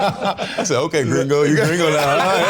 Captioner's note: all laughing